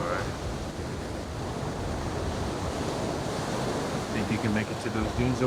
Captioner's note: waves continue crashing